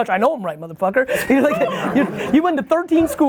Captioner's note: laughs